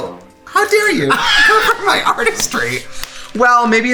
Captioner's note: laughs